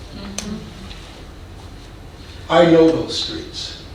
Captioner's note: woman agreeing